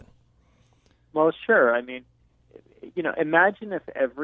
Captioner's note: voiceover